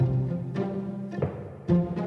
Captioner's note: footsteps